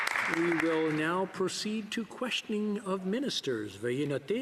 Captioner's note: some Applause